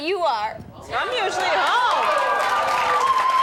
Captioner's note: audience cheers